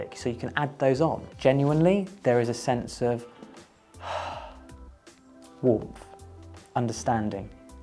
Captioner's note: release of breath